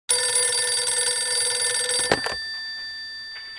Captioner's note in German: Telefon klingelt